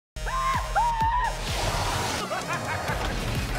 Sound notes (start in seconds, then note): 0.2 screaming; 1.6 maniacal laughing